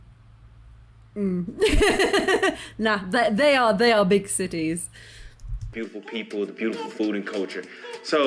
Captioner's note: laughing